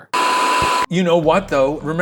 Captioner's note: static rumbling